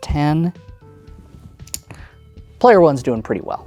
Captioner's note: tokens clatter